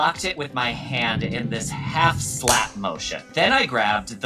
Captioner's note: hand thwacking